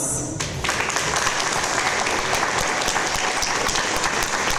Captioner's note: audience applause